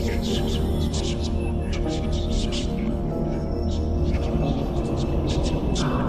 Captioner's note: creepy whisper